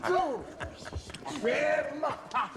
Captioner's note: laughs